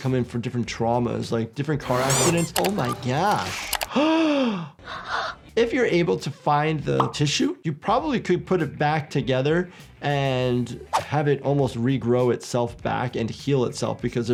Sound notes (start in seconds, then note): 3.9 gasps